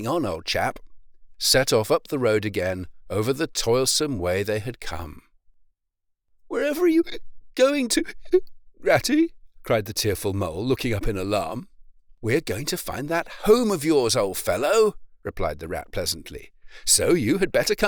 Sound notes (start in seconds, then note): 8.0 hic